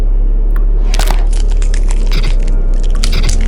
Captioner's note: squelching